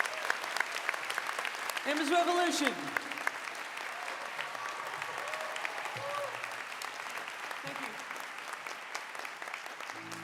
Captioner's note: applause